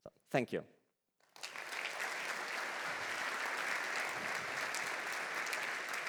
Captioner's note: applause